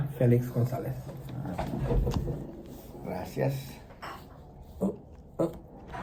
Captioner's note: laugh